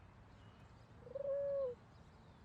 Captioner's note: pigeon coos